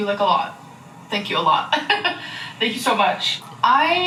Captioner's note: laughs